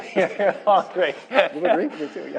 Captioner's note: laughter